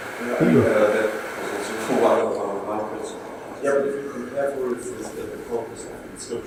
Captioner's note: speaking indistinctly